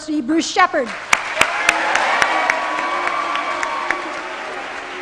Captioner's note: applause